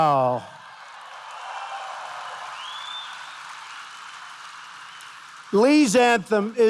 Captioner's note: applause